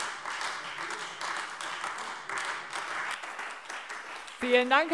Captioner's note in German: Beifall Freie Demokraten und AfD